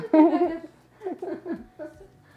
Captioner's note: laughs